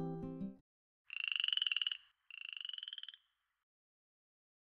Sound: frog croaks

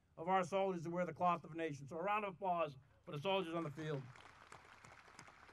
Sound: audience applauding

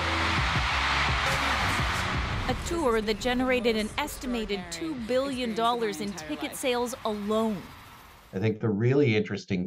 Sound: cheers and Applause

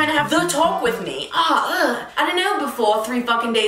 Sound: groans

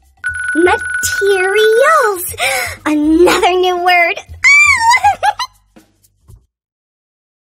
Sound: laughs

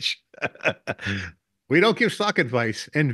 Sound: both laughing

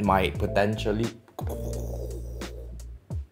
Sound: very special sound effects

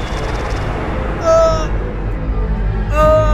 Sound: wails

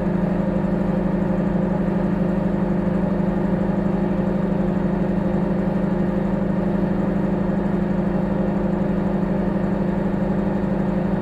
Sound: microwave humming

